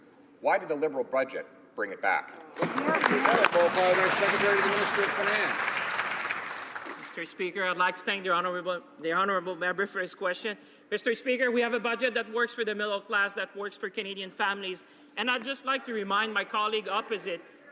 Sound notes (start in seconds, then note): 7.2 some Applause